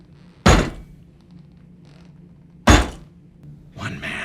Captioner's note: heels clack